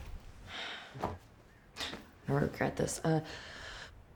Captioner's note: sighs